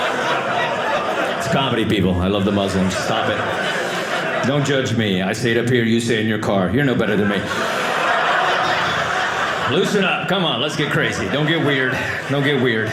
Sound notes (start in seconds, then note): 6.8 audience laughing